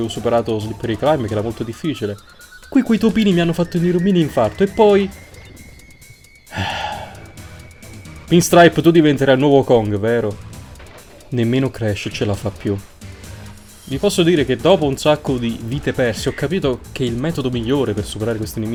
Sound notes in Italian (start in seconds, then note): 6.4 sospira